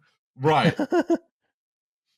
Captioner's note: laughs